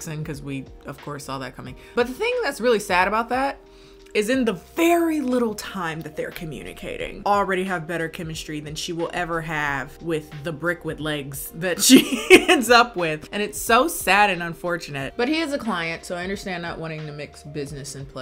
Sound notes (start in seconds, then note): 11.8 laughs